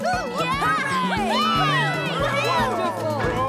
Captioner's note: giggles; audience cheers